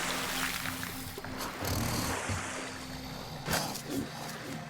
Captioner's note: snorting